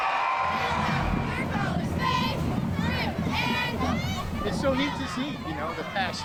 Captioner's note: cheers and applause